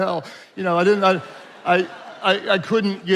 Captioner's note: attendees laughing